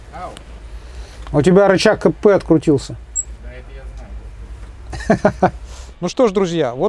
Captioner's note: laughs